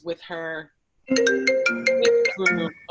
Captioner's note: cellphone ringing